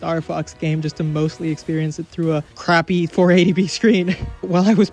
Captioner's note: laughing